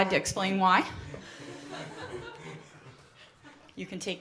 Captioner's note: laughter